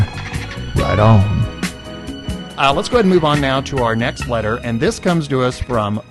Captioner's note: back in normal voice